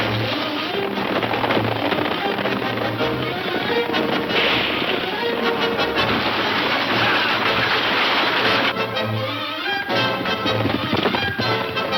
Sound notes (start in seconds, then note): 2.3 gun shooting; 5.1 cowboys shouting; 8.7 intense chase music